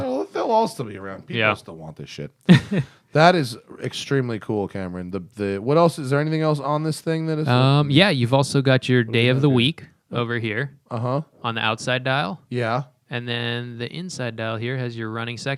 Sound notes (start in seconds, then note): 2.4 laughter